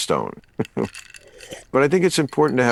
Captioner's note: chuckling